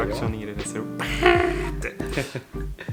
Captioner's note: imitates horn